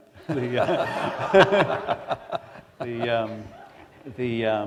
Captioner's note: laughter